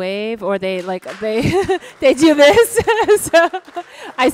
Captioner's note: laughs; audience applauds